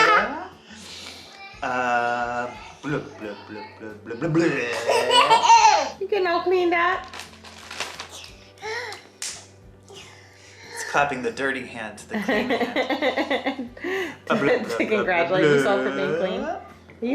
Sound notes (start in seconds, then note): 0.1 giggles; 12.2 laughs